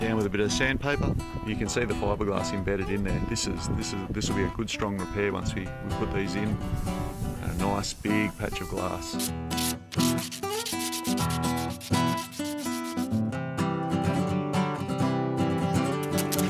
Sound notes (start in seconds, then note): 9.4 sand paper scrapping; 13.9 upbeat music